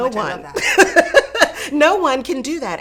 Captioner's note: laughs